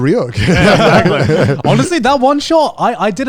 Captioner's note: group laughing